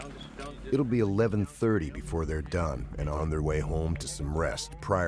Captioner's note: voiceover